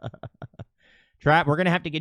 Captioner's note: laughs